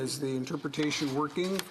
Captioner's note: speaking French